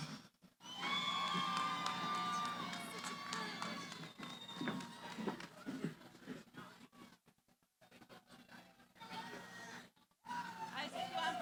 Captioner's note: cheering